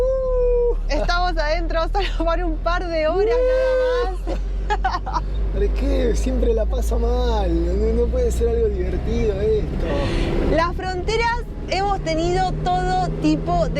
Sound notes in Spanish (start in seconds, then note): 3.9 risas